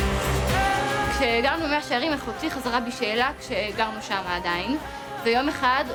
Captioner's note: speaking in foreign language